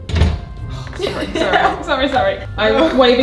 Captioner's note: lever clunks; sighs; laughs